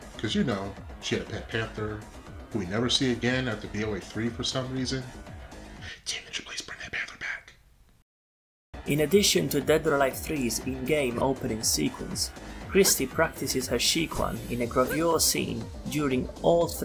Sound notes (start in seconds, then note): 6.0 whispering